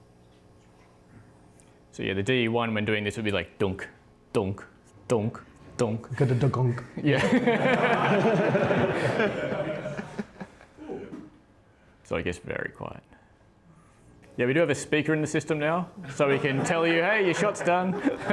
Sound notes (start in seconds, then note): 7.1 laughing